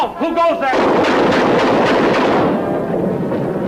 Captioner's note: guns firing